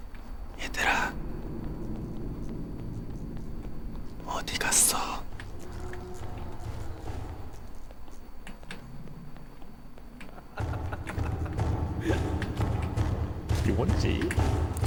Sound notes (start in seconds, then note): 10.1 laughing